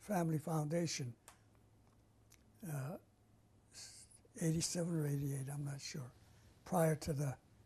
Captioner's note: pauses for 3 seconds